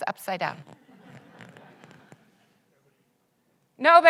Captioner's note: audience laughs